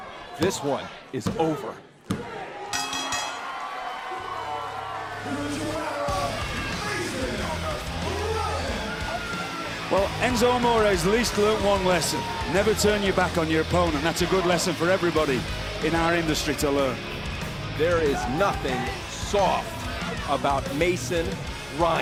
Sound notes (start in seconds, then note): 2.7 bell ringing